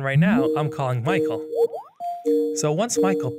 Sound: video call ringtone rings

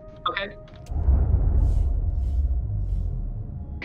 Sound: engine sounds

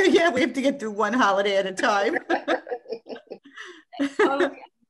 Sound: laughs

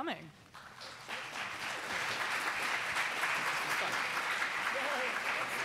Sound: audience applauding

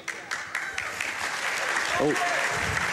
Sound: applause

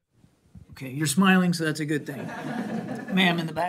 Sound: laughter

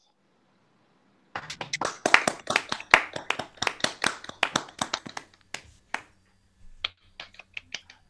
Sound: applause

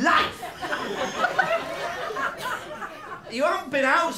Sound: laughter

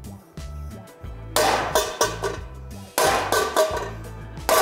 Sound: metal clangs; upbeat music

